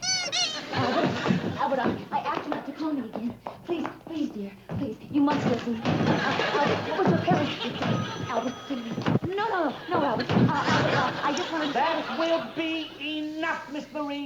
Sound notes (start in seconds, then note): 0.0 toy squeaks; 5.3 phone bangs on floor